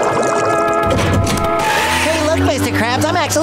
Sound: screeching

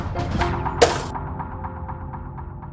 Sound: slams lid

